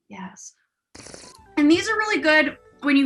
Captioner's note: slurps